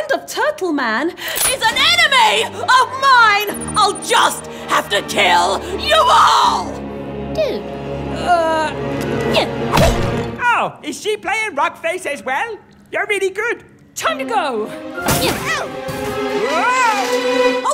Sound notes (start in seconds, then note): 1.2 yelling; 6.0 dramatic, tense music; 8.9 dramatic music ends; 15.8 Turtle Man yells